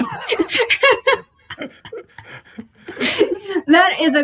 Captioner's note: laughing